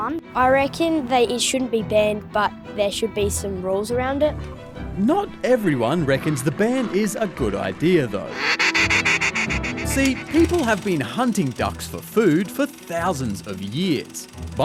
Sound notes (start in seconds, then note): 8.3 duck call